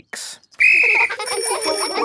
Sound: blows whistle; giggling and ringing bells

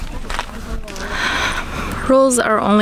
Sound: sighs

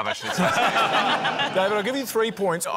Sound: laughter

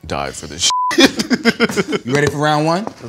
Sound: laugh

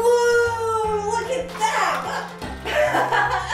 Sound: laughs

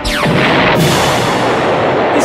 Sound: explosion sounds

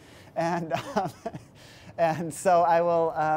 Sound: laughs

